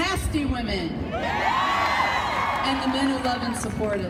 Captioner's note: crowd cheering